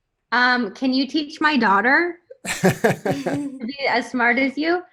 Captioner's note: laugh